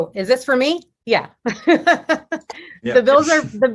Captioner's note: laughs